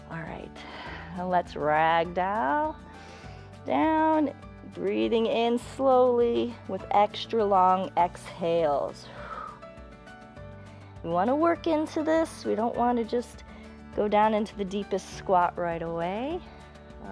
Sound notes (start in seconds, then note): 9.0 exhales